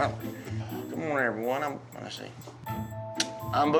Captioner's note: mumbles